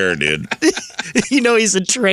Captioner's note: laughing